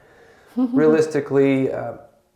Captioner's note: laughs